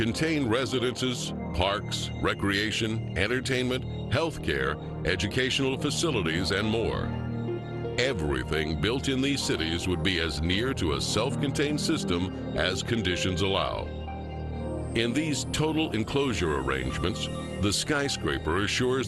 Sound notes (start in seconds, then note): none